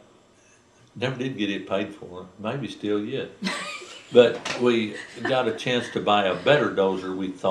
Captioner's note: laughter